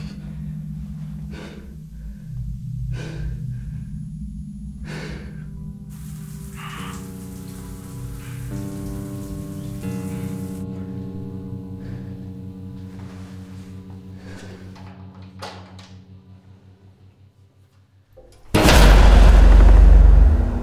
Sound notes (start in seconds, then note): 5.8 shower running; 5.9 navin breathing over voicemail